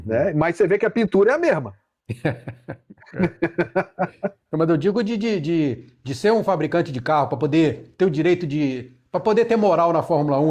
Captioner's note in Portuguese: risadas